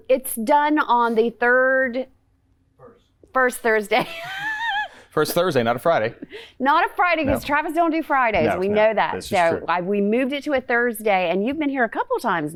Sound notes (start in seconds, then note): 4.0 laughs